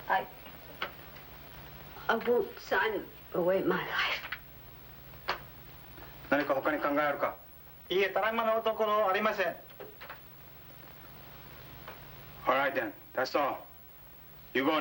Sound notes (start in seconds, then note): 6.5 speaking foreign language